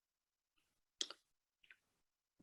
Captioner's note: silence